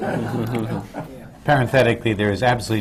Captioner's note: laughter